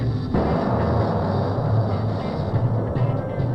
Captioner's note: bomb exploding